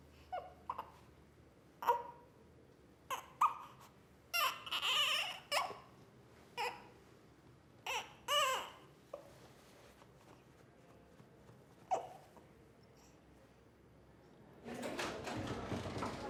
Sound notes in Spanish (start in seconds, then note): 0.2 bebé se queja; 4.4 bebé vuelve a llorar